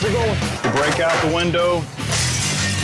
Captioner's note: glass shatters